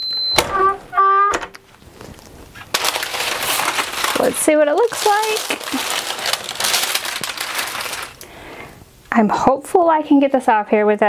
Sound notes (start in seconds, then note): 5.7 paper rustling